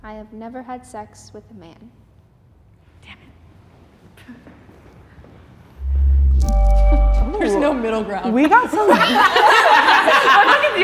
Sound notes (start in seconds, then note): 3.3 whispering; 6.2 chiming; 8.3 contestants laughing